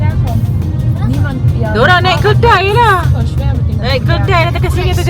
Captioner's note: speaking German